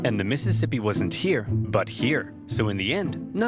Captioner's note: none